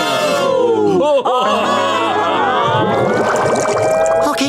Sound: ooo-ing

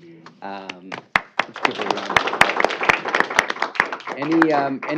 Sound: applause

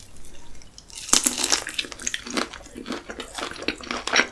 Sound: Crunch

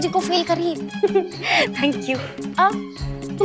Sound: chuckles

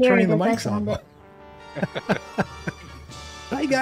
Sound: laughter

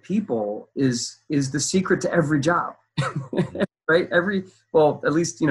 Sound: laughs

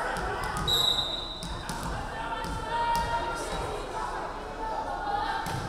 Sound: referee whistling

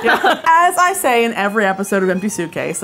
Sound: laughing

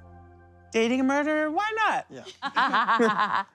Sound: laughing

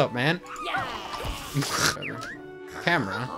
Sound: scoffs

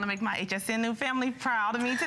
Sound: laughter

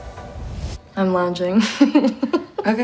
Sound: chuckles

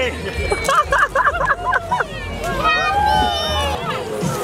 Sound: laughs

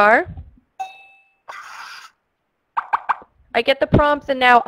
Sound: ringing

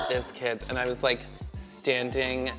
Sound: gasps

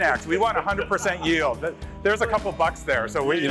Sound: laughing

